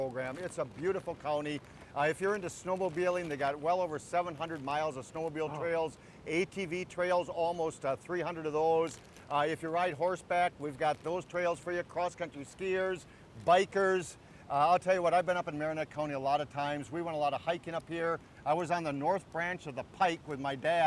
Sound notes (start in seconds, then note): none